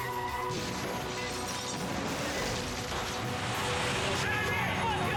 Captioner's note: tires screeching; cars crashing